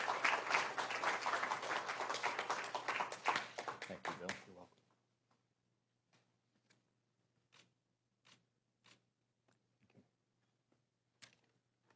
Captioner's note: applause